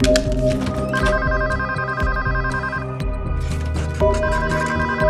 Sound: telephone ringing

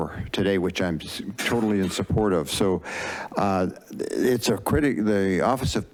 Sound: stutters

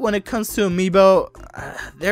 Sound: sighs

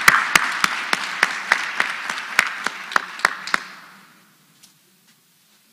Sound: applause

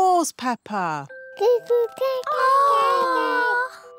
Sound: babies gurgle

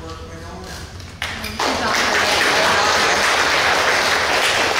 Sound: clapping

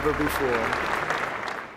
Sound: applause

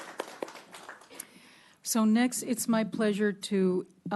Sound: clapping

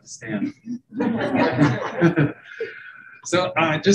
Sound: group laughing

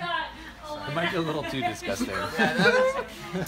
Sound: laughing

